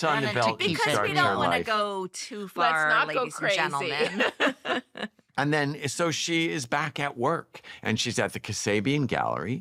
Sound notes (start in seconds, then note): 3.5 laughs